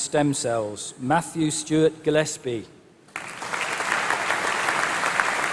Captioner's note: applause